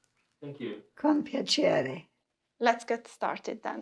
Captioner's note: in Italian: My pleasure!